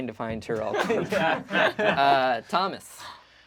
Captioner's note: group laughs